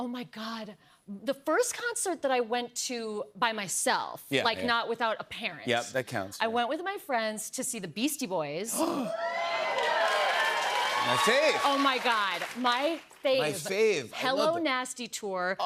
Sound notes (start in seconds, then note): 8.7 gasps; 9.0 cheers and applause